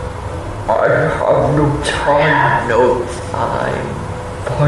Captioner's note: distorted